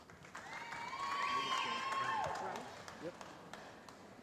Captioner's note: cheering